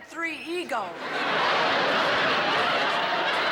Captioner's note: laughter